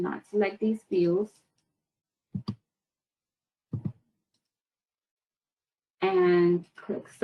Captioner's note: 5 seconds pause